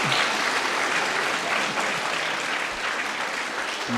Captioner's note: crowd cheering